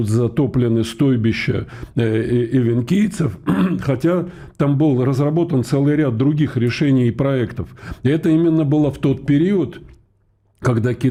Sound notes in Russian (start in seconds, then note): 3.4 откашливается